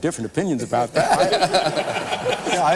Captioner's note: laughing